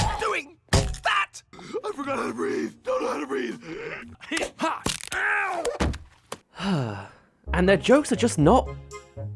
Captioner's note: sigh